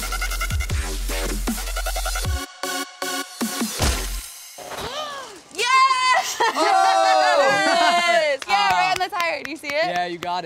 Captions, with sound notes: (dramatic electronic music) - (gasp) Yes! Yeah, right on the tire, do you see it?